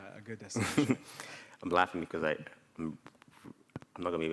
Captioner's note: laughs